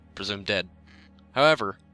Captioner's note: phone Vibrates